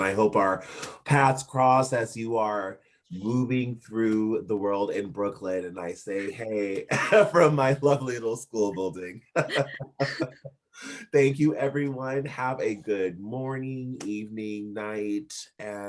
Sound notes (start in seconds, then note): 6.1 chuckling; 9.0 laughing